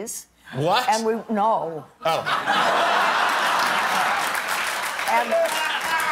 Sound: laughter

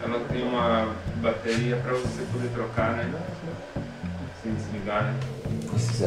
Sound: person filming speaking in foreign language

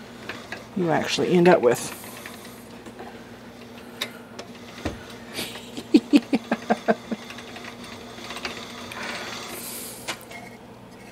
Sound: laughter

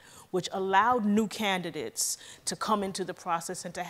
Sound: none

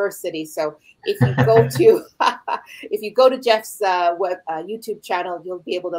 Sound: laughs

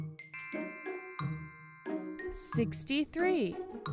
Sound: magical chime

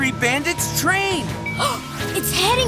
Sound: gasps

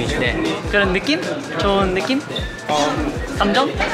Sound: impersonates

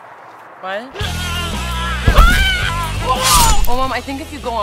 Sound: yelling

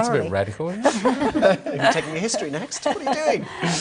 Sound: laughter

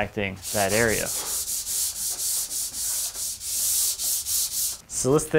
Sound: sandpaper scratching

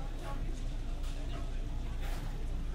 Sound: low murmur of customers

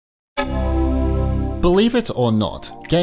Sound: Mac startup chime

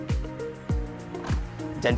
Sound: tailgate thuds

